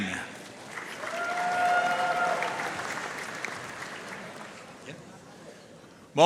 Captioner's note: audience cheering and applauding